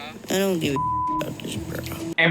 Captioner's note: beep